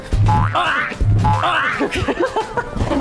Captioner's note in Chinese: 啊啊!